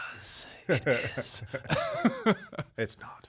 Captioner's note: laughing